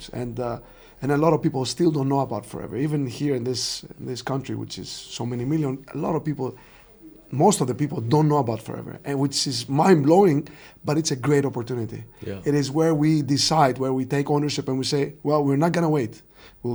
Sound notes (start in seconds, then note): none